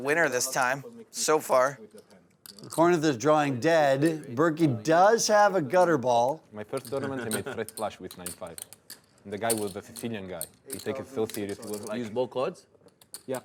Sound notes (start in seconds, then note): 6.6 voiceover